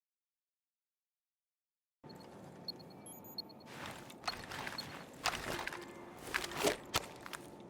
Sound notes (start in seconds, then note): 2.6 device beeping